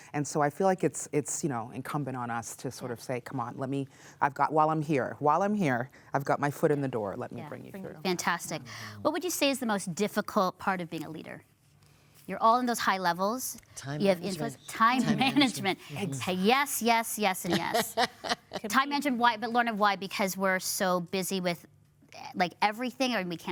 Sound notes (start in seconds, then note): 15.0 laughs; 17.4 laughs